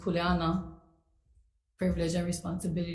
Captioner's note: speaks foreign language